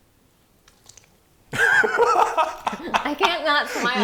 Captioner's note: slurping; laughing